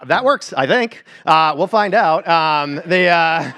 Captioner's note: laughter